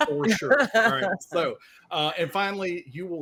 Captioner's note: all laughing